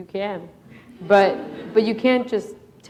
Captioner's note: laughter